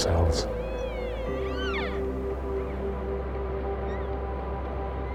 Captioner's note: elk cries